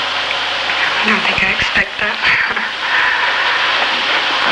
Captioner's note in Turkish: gülüyor